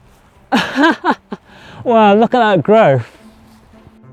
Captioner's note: laughter